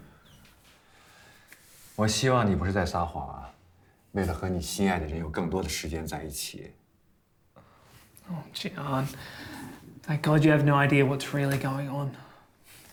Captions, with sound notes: (Jian speaks in Mandarin) - Oh, Jian, thank God you have no idea what's really going on.